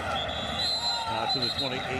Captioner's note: whistle blows